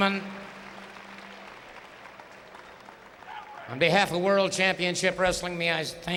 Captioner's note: applause